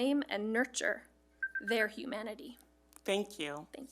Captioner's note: timer beeping